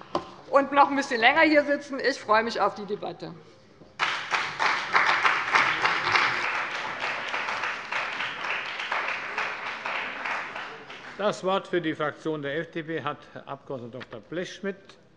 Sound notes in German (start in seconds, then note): 4.0 Beifall bei dem BÜNDNIS 90/DIE GRÜNEN und der CDU